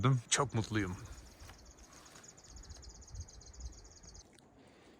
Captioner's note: bird Sounds